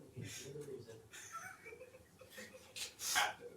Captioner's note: laughs